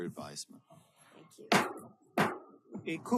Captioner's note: gavel bangs twice